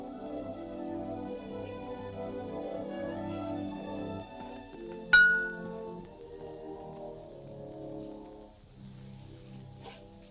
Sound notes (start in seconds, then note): 5.1 glass clinks